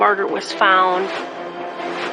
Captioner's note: air whooshing